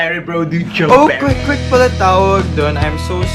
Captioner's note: speaking conyo